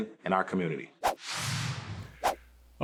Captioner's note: sound effects of swiping